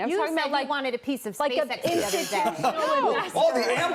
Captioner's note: laughter